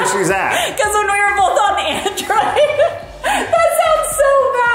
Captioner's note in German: lacht